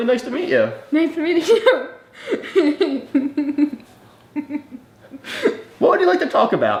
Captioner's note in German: lacht